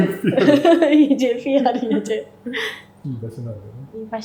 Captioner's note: laughs